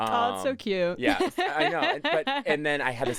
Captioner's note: laughs